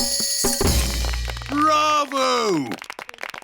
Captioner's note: applauding